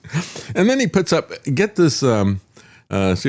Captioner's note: laughs